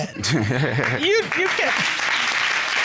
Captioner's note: laughing